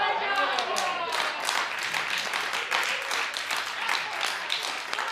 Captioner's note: audience applauds